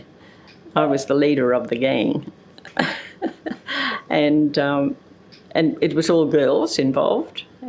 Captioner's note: chuckle